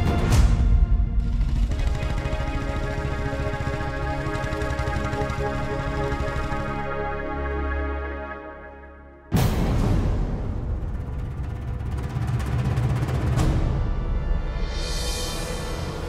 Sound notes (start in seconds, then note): 1.7 motorcycle approaching; 9.3 adventurous music; 12.3 drum roll